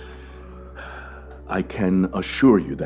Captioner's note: sigh